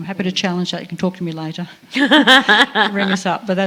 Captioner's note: laughter